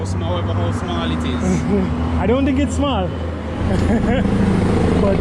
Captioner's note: laughs